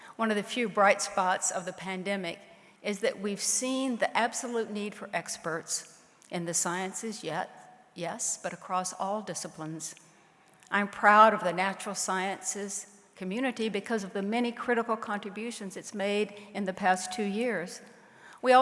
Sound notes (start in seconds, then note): none